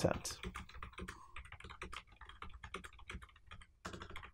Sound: typing sounds

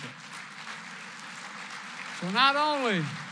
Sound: applause

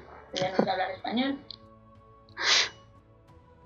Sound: laughs

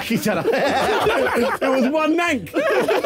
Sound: laughing

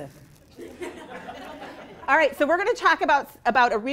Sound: laughing

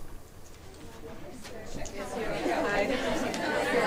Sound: chattering

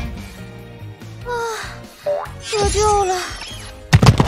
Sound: sigh

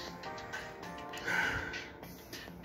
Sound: sighs

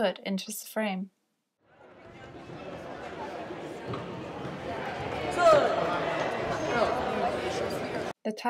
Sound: sound of a crowd

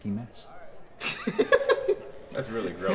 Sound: chuckling

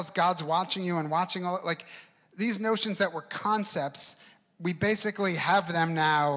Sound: none

